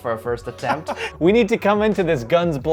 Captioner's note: laughs